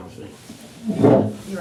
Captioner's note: chair rumbling